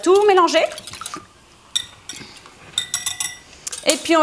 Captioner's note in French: Kitchen Noise